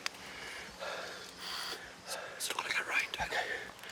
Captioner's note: whispering